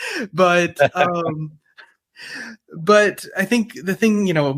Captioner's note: laughing